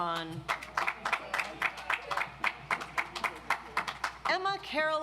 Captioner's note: audience applauds